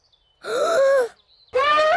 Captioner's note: inhales deeply; trumpets loudly